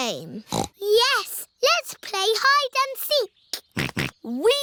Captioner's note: snorts; snorting